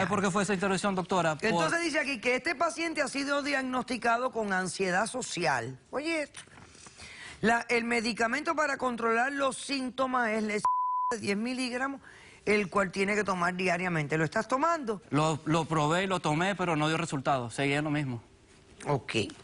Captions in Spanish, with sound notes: - ¿Y SABE POR QUE FUE ESA OBSTRUCCION, DOCTORA? - ENTONCES DICE AQUI QUE ESTE PACIENTE HA SIDO DIAGNOSTICADO CON ANSIEDAD SOCIAL. OYE ESTO. "EL MEDICAMENTO PARA CONTROLAR LOS SINTOMAS ES EL [Bip] 10 MILIGRAMOS, EL CUAL TIENE QUE TOMAR DIARIAMENTE". ¿LO ESTAS TOMANDO? - LO PROBE Y LO TOME, PERO NO DIO RESULTADOS, SEGUIA LO MISMO.